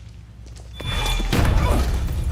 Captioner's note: gunshot